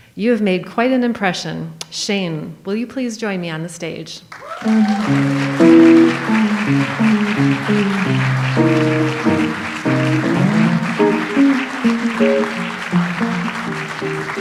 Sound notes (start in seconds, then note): 4.7 audience applauds; 5.7 light jazz music